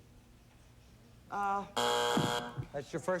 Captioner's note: buzzer